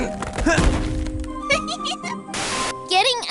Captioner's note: grunts, groans; giggles